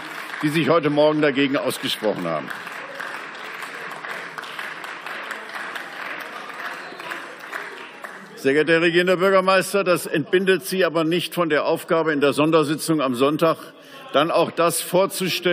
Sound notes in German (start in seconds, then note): 2.5 Beifall